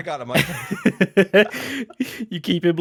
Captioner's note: laughs